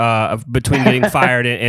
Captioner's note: laughs